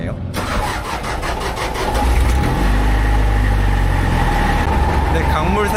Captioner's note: Engine roar like a Lamborghini